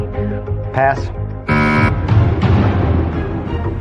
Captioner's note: buzzer sounds